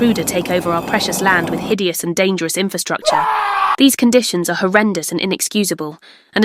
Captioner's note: screaming man